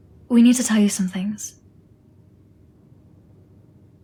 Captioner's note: none